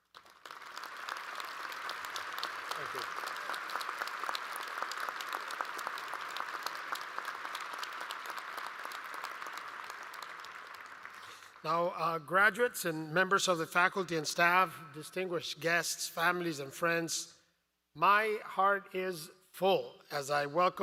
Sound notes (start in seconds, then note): 4.5 applause